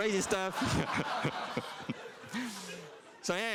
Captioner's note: laughter